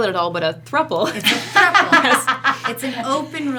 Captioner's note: laughing